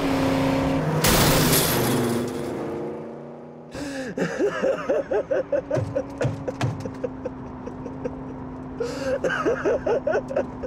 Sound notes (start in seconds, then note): 1.1 metal clinking; 3.9 laughing